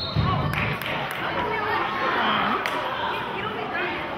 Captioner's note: whistling